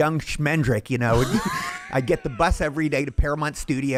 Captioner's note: laughing